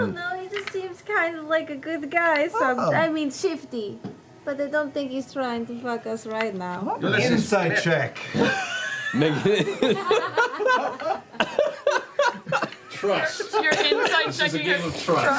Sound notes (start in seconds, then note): 8.2 laughter; 12.1 laughs and coughs